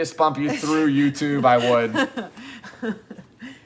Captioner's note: chuckles